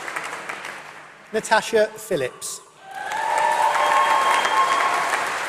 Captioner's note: applause